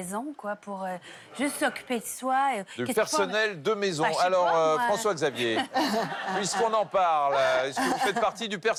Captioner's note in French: rires